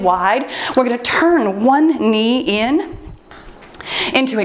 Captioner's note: timer beeps